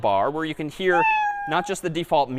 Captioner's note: meow